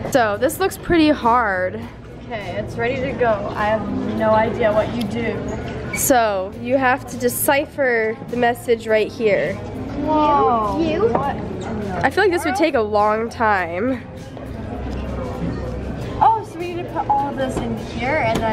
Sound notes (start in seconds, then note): none